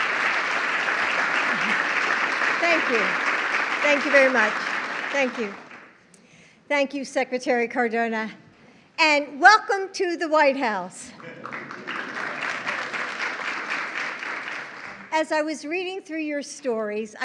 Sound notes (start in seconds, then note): 11.1 applause